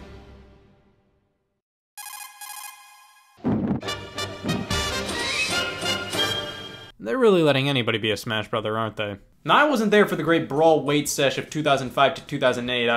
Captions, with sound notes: (phone rings) (upbeat intro music) They're really letting anybody be a "Smash Brother", aren't they? Now, I wasn't there for the great "Brawl" wait sesh of 2005 to 2008.